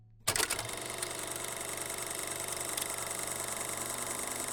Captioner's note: reel rolling